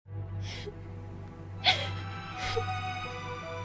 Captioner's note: crying